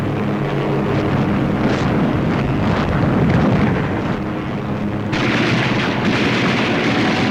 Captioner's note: gunfire, explosions, aircraft engines